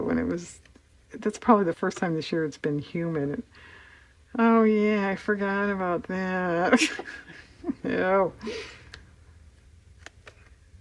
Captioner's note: laughs